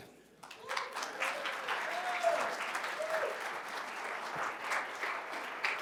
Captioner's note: cheers and applause